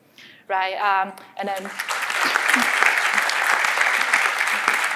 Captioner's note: applause